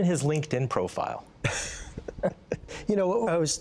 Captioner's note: laughter